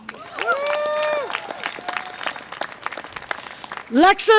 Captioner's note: audience applause and cheer